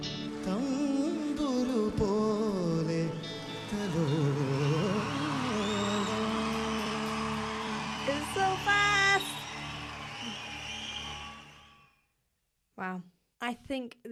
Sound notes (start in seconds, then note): 3.4 audience cheering